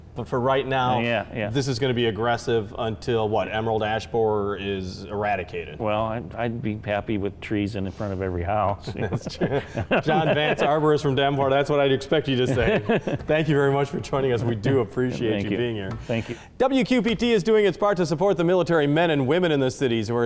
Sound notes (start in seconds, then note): 8.8 laughing